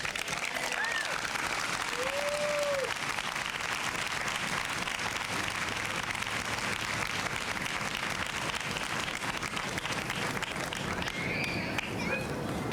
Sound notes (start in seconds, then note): 0.2 applause, cheering; 4.5 applause